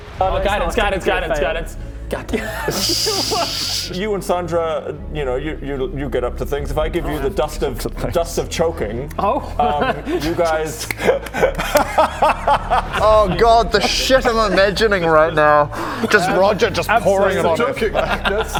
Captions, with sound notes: Guidance guidance guidance guidance god dammit You and Sandra, y'know you get up to things if I give you the dust of dust of choking oh... you guys *kink-shaming laughter* Oh god the shit I'm imagining right now just Roger just pouring it onto her like